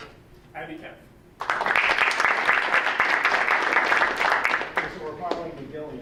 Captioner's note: audience applauding